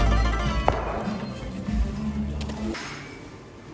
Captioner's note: fireplace crackling softly